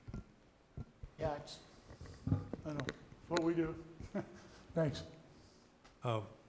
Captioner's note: chuckles